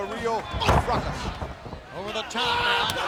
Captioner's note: body thudding; footsteps plodding